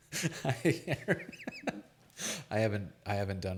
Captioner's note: laughs